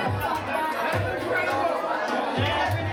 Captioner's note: crowd chattering